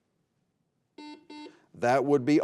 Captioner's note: buzzer beeping